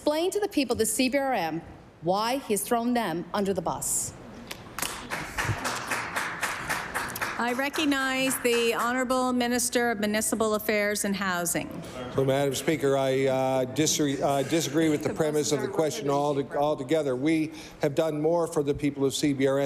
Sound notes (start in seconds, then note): 8.8 applause